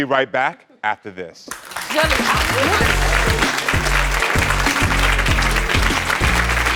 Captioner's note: applause; upbeat music